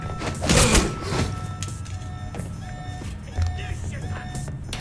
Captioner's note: alarm blares